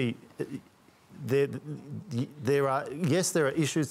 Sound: stutters

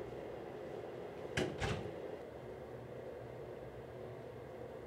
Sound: door closes

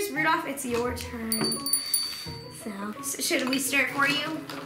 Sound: bell ringing

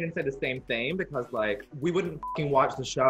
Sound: beep

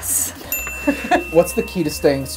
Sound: ding; laughter

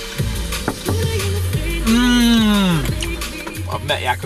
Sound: loud knocking

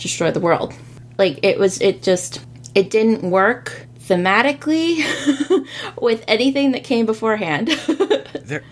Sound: laughs

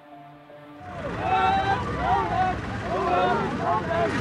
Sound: crowd yelling

